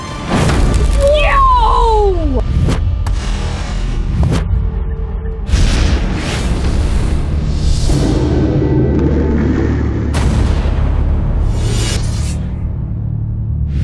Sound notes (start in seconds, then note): 0.3 explosion; 2.8 boom; 5.5 explosion; 6.6 boom; 10.0 boom